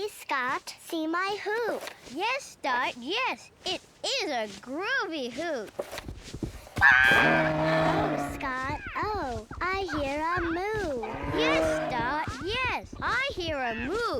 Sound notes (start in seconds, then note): 5.2 squawks; 6.8 grunting